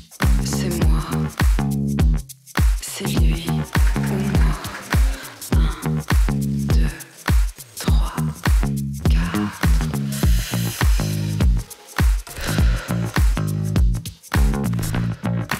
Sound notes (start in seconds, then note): 2.8 cheers and applause